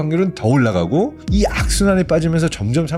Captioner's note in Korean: 무거운 효과음